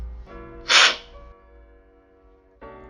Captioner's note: slurping